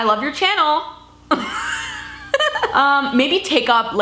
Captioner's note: laughing